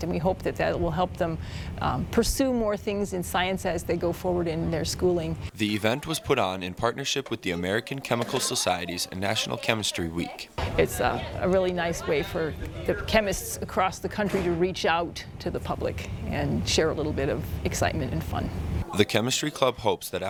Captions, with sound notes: that will help them pursue more things in science as they go forward in their schooling. - [Voiceover] The event was put on in partnership with the American Chemical Society's National Chemistry Week. - It's a really nice way for chemists across the country to reach out to the public and share a little bit of excitement and fun. - [Voiceover] The chemistry club hopes that after